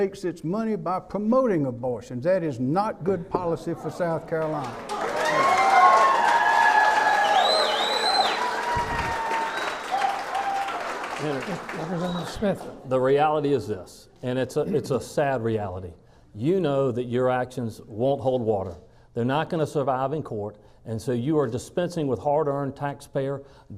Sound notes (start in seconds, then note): 4.4 clapping